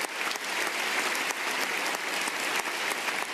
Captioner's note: speaking French